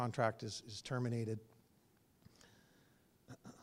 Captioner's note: cough